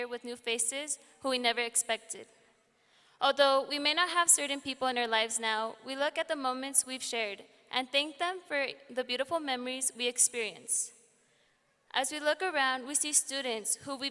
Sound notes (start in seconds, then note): none